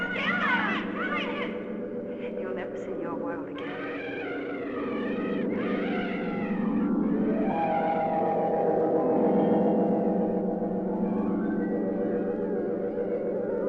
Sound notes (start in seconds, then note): 3.4 screeching